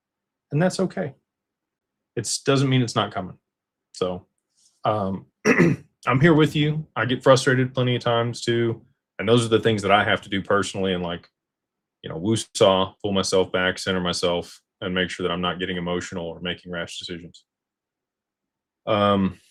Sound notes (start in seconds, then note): 5.4 clears throat